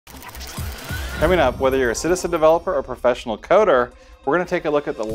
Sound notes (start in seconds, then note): 0.1 gears whirring